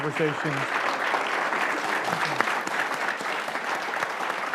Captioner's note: audience applauds